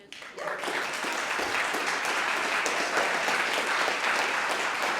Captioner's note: audience applauding